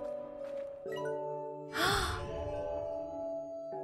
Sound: gasp

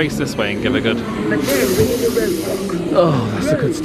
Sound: sniffs

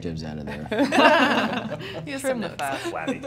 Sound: laughing

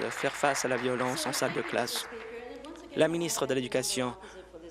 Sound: applause

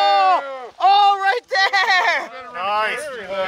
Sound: group chattering

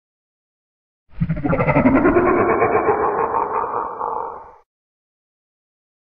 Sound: monster laugh

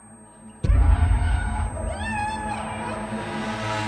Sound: distorted screaming

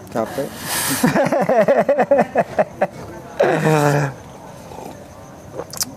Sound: laughs

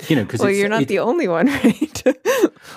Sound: laughs; both laugh

